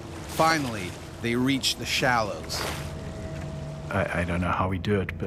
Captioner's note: voiceover